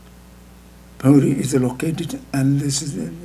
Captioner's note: speaking tibetan